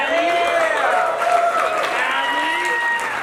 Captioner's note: audience applauds